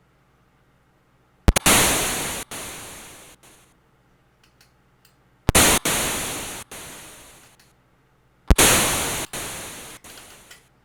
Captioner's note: thunder claps